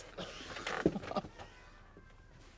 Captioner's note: chuckles